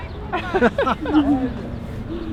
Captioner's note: both laughing; gentle piano music